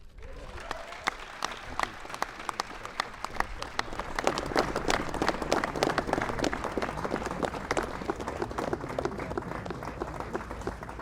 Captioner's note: applause